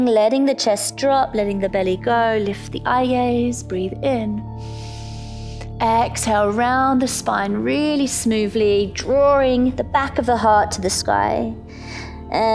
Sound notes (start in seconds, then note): 4.6 inhales; 11.7 exhales